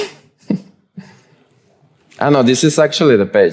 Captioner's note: chuckles